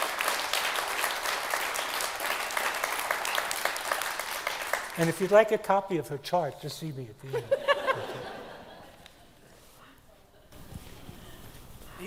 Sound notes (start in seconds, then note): 7.3 laughing; 9.1 attendees laughing